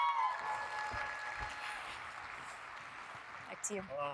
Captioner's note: audience cheering; audience applauding